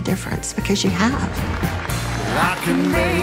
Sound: attendees applauding

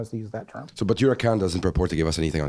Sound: voiceover

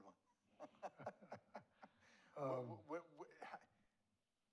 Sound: laughs

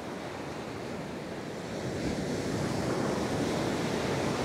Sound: waves gently crashing on the shore

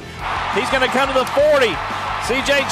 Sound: voiceover

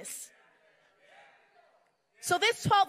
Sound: crowd cheering

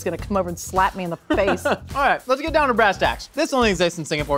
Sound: laughs

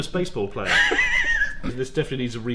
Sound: laughs

